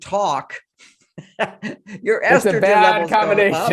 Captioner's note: chuckles